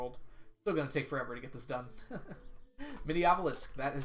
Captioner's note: laughs